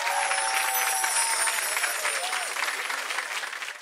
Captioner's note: chimes ring